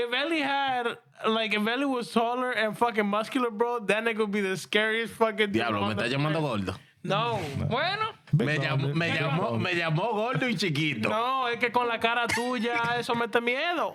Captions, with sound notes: If Veli had, like if Veli was taller and fucking muscular, bro, then it could be the scariest fucking-- (Speaking In Foreign Language) No. (Speaking In Foreign Language) No, if you call the car a two, you're gonna have to meet me.